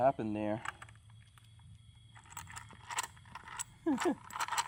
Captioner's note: rattling; chuckles; rattling